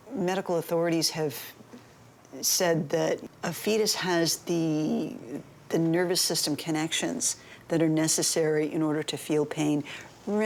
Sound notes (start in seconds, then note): none